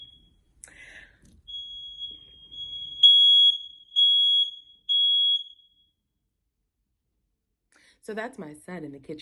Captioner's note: alarm